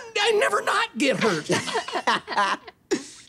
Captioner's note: laughing